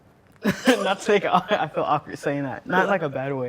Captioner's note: laughs